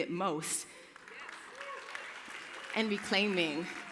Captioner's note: applause